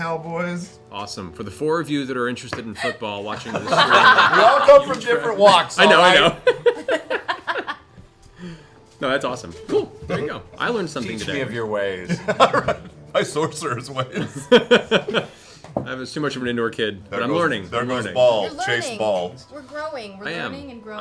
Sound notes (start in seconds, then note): 12.0 laughs